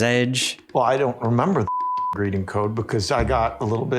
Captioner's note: beeping